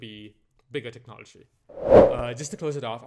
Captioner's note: transition whoosh